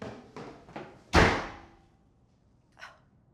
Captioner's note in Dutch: deur slaat dicht